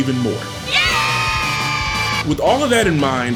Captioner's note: unfortunate applause